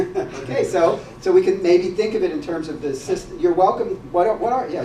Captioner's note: laugh